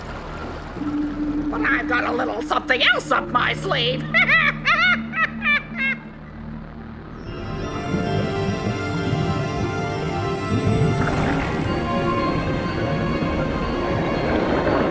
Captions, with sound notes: But I've got a little something else up my sleeve (cackling). (Whimsical music)